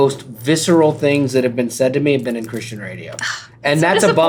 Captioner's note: gasp